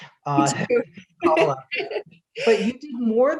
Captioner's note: laughs